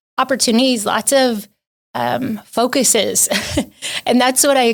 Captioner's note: chuckles